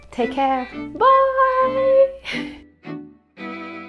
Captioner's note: chuckles; lively music